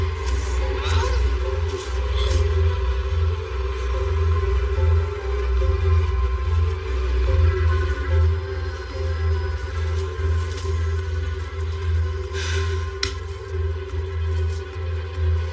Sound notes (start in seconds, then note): 11.6 sighs